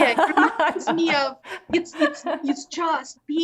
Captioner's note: laughing